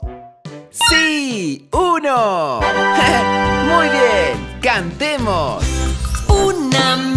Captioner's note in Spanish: Risas